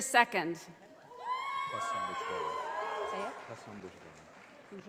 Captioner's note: audience applauding